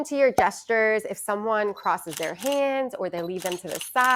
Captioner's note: camera clicking